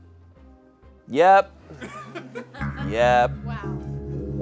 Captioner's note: audience laughing